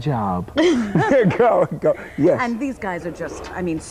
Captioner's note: laughing